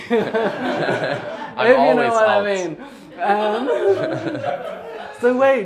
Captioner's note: laughter